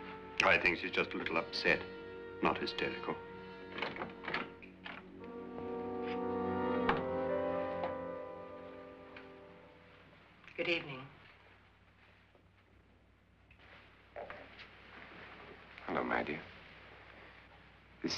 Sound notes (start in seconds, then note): 3.7 door opens; 5.4 ominous music